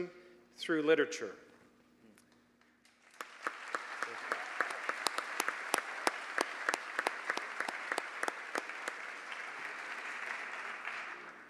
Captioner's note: applause